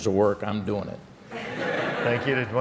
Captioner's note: laughter